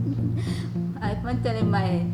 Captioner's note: laughs